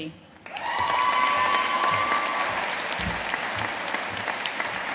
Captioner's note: audience cheering and applauding